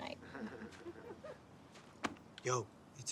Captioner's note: laughter